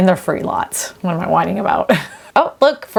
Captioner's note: chuckles